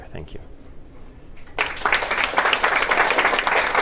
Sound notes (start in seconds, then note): 1.4 applause